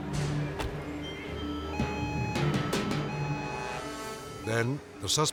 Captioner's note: uneasy music continues; siren blaring